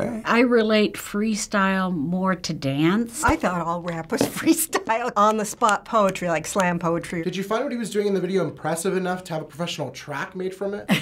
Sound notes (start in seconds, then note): 4.7 chuckles